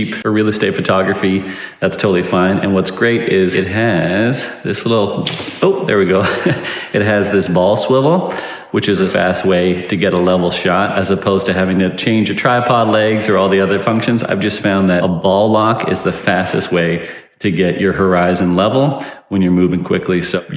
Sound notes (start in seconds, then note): 5.4 tripod clicks; 5.6 chuckles